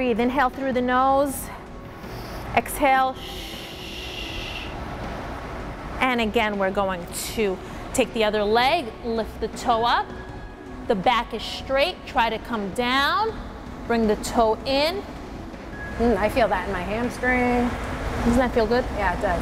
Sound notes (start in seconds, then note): 3.2 exhales sharply; 3.2 nasal inhaling